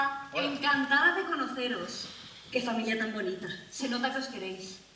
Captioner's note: Spanish